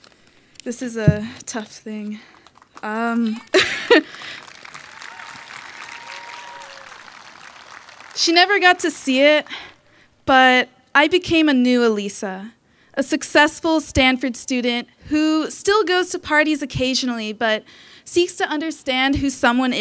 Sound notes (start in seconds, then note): 3.5 applause